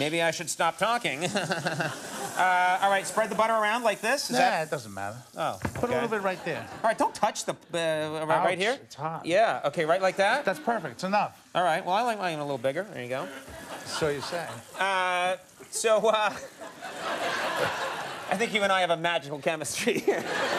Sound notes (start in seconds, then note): 1.1 audience laughing; 1.2 laughs; 16.3 audience laughs; 16.4 laughs; 20.0 audience laughs